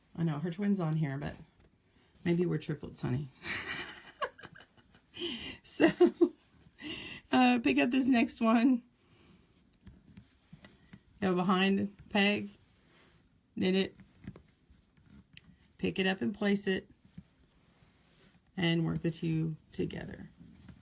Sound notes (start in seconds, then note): 3.8 laugh